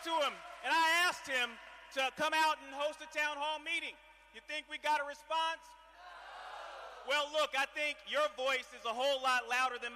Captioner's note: cheering